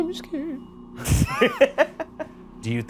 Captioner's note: laughing